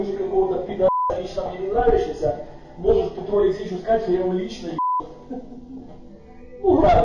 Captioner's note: laughs